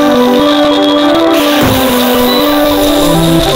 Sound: boom

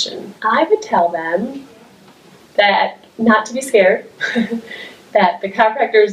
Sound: laughs

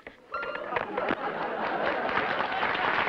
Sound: laughter; applause

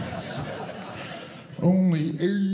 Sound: audience Laughing

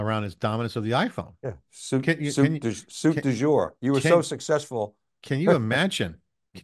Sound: chuckles

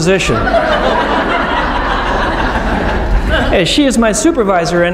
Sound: laughing

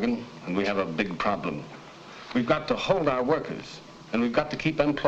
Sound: none

